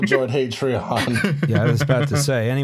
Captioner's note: chuckles